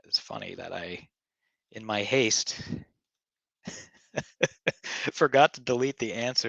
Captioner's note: laughing